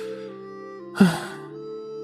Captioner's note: sigh